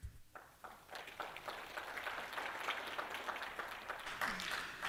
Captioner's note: applause